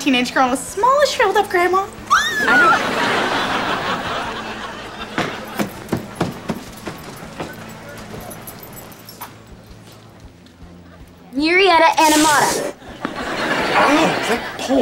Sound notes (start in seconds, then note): 2.0 squeals